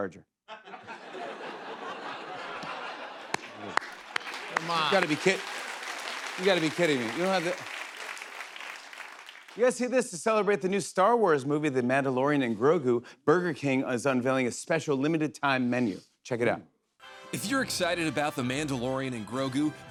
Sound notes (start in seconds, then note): 0.4 laughter; 3.0 applause